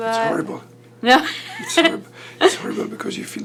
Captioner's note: laughs